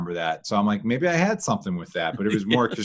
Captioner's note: laughing